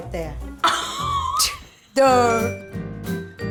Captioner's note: laughs